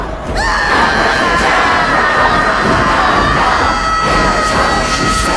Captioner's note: lady screaming